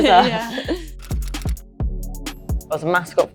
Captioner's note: group chuckles